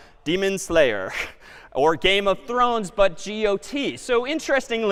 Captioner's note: chuckles